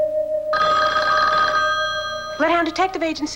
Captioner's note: telephone rings